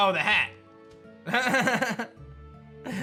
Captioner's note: laughs